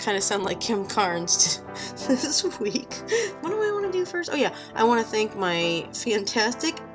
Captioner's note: laughs at own joke